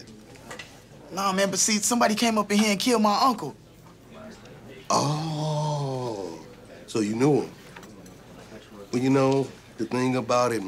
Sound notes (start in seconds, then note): none